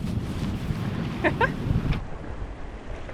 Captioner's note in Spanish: risitas